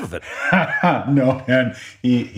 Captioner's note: laugh